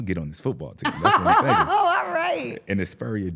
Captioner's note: laughs